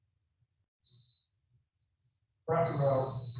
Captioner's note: timer beeping